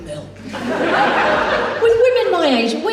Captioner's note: audience Laughs